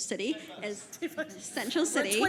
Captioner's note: panel laughs